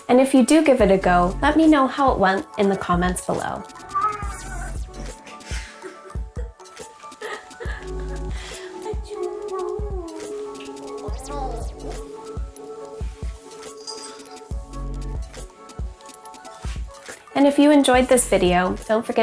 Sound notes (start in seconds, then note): 5.5 laughing; 8.2 upbeat music; 13.4 bell jingles